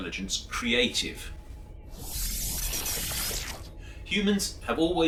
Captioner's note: electronic sounds